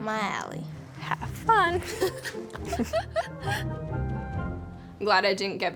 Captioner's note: laughter